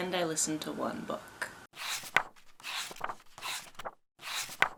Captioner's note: pages turning